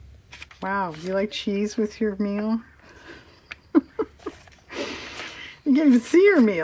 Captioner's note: laughs